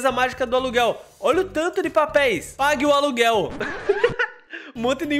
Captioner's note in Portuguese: risos